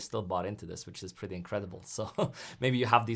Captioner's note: laughs